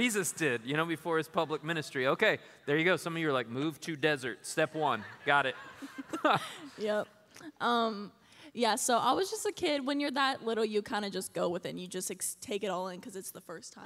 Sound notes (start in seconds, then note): 4.8 laughter